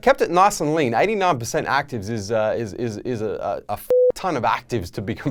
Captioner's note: beeping